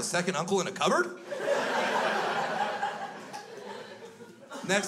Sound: crowd laughs

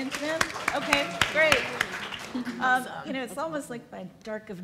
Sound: applauds

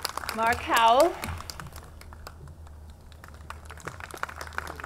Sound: audience clapping

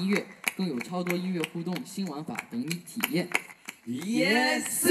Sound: clapping machine without feelings

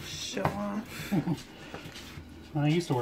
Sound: laughing

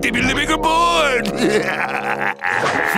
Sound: laughing

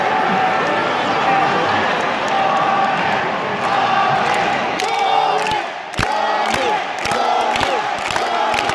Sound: public chanting "GOMI! GOMI!"

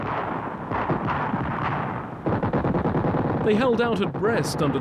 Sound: guns firing

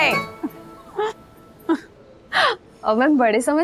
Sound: laughs

